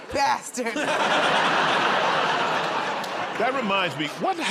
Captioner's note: laughter